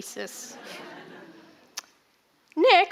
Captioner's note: audience laughing